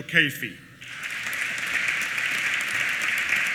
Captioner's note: applause